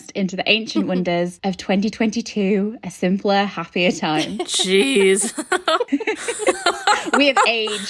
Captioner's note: laughing